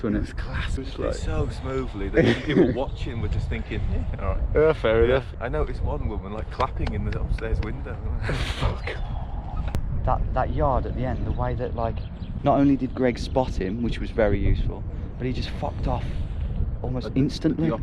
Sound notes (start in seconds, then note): 8.2 chuckles